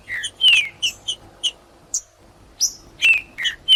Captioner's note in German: trinca ferro cantando